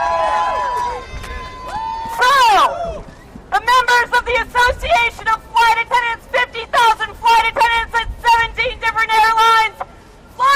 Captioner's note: applause